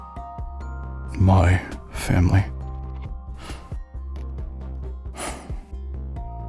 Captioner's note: sigh